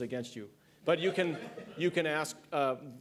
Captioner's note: laughter